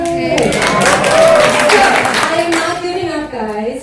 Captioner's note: audience cheers